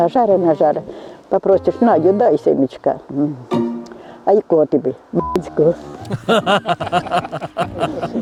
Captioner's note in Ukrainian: сміх